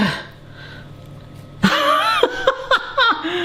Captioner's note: grunts; laughs